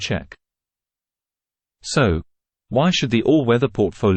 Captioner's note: confident